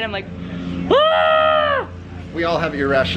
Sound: screams

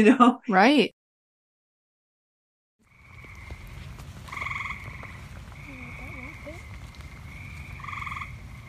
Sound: sounds of frogs calling from a marsh on a rainy summer evening

